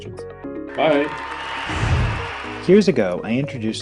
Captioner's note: cheering